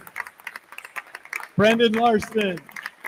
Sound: attendees continue applauding

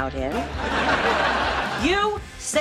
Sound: laughing

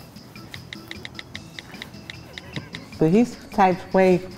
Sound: typing

